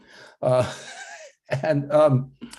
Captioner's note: laughs